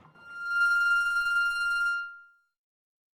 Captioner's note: school bell